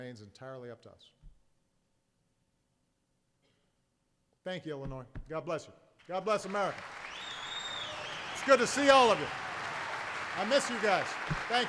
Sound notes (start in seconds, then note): 6.0 applause